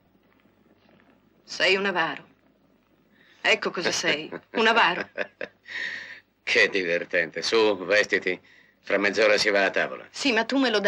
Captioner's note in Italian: risate